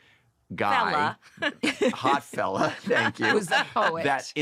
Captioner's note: laughter